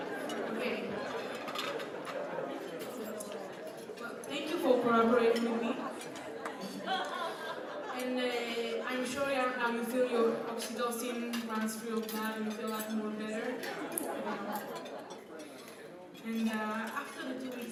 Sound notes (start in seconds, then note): 1.2 crowd still chatting; 7.3 crowd chatting; 14.6 crowd settles down